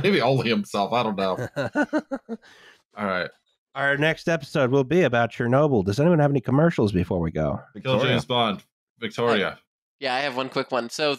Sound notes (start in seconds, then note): 1.1 laughs